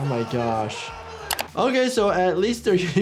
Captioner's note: camera shutter snaps